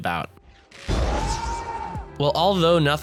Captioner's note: Angry Rhodey Noises